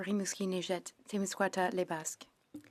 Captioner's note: speaking French